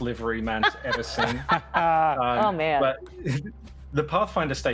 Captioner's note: laughs